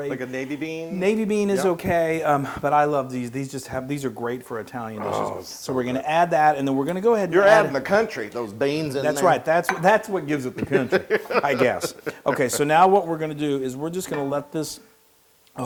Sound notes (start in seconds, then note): 10.5 laugh